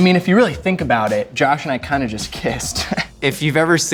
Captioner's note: chuckles